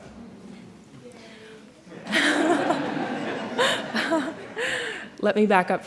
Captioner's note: laughter